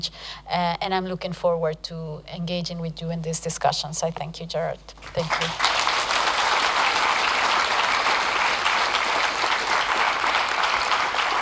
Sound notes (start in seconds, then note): 5.0 applause